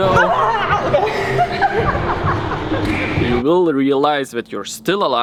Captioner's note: laughs